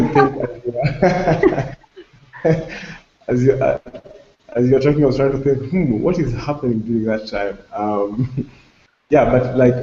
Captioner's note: laughter